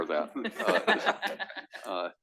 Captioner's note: laugh